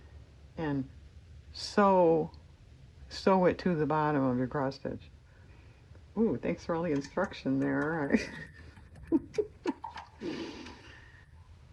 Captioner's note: laughs